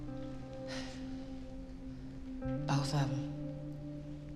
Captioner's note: sighs